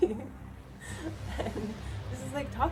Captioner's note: laughs